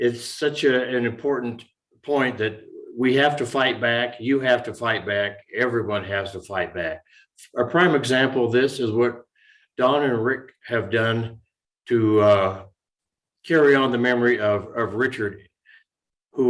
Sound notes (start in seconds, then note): none